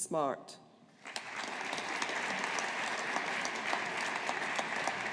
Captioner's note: audience applauding